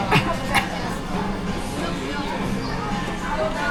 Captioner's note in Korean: 훌쩍